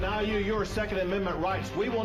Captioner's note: HABLAN EN INGLéS